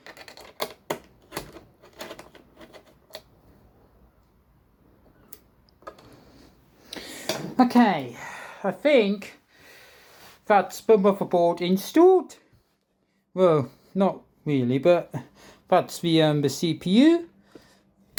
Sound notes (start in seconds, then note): 1.8 screwdriver screwing